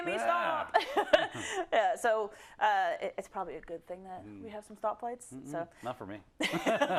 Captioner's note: laugh